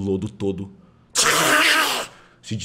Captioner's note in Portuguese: squesh